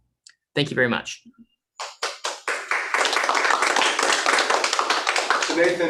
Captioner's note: applause